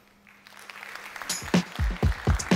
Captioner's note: applause